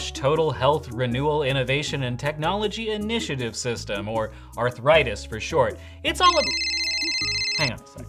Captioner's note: phone rings